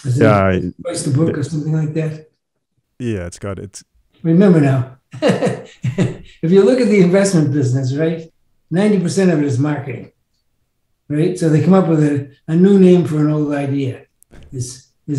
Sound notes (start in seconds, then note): 5.7 chuckles